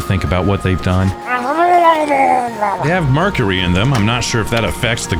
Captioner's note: murlok garbling